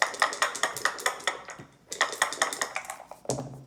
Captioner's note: dice shaking